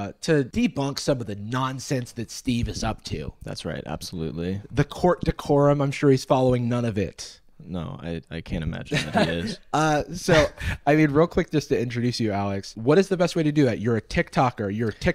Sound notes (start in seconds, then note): 8.9 laughs